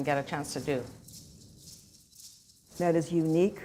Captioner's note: rattling